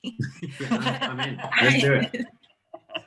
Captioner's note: panel laughing